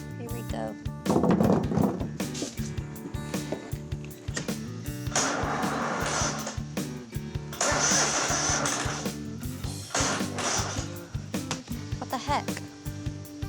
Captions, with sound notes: HERE WE GO. [STARTING MOWER] [GRINDING] WHAT THE HECK?